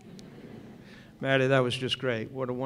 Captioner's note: laughter